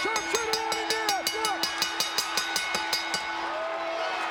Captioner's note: bell dinging